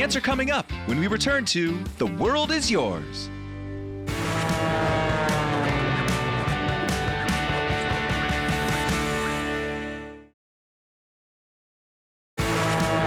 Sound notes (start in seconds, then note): 4.1 upbeat music; 4.1 plane engine; 12.6 plane engine; 12.6 upbeat music